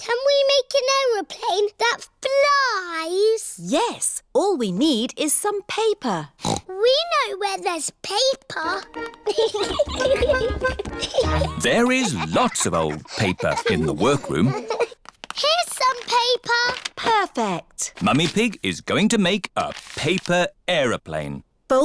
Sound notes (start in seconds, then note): 6.4 snorts; 9.2 giggling